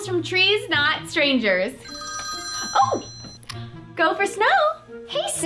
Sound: phone rings

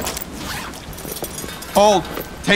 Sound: zippered bag opening; bag rustling; metal clanging

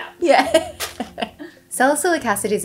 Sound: laughing

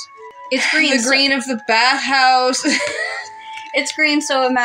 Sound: sigh; laugh

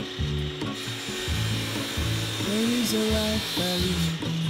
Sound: power machine buzzing

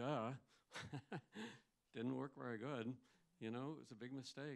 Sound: laughs

